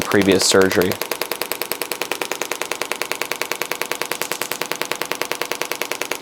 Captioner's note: machine continues tapping